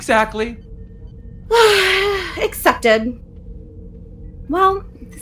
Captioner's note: sigh